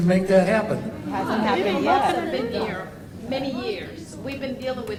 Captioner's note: crowd all talks at once